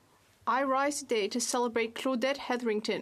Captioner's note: speaking French